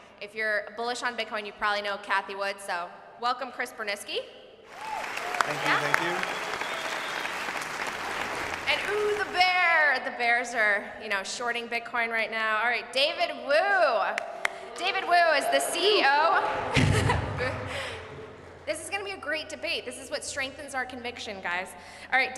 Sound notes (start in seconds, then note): 4.7 audience cheering